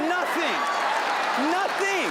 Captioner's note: audience laughing